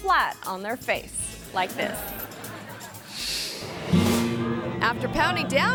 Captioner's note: audience laughing